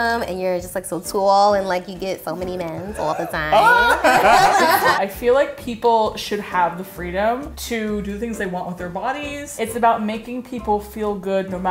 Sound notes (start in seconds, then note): 2.9 all laughing